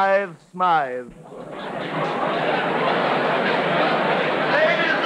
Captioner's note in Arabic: الناس يتحدثون بصوت خافت